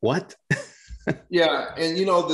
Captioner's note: chuckles softly